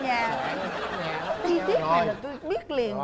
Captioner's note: laughing